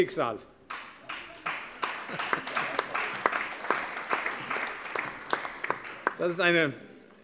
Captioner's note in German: Beifall